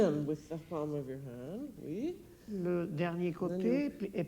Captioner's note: speaking French